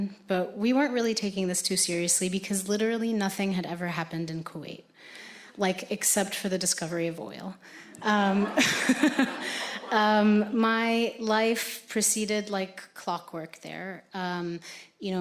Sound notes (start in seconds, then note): 7.9 audience laughing; 8.0 laughs